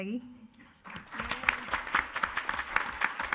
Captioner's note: applauding